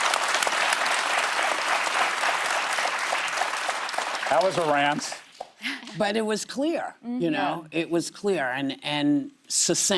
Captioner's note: applause